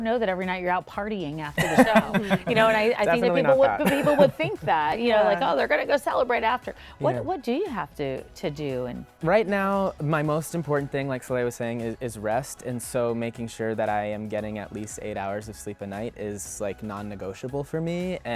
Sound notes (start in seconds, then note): 1.6 laughing